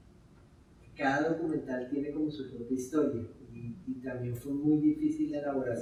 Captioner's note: speaking in Spanish